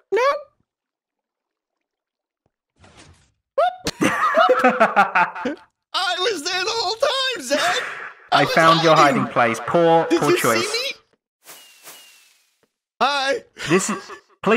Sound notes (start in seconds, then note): 3.8 laughs; 5.8 normal voice